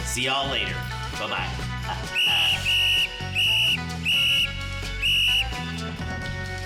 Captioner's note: whistles blows